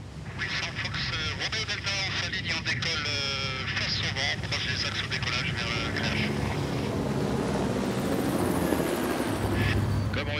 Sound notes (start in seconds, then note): 0.3 speaking in foreign language; 6.2 blades whirring